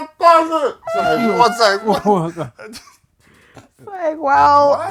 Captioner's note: laughter